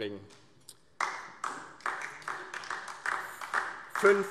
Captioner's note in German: Beifall DIE LINKE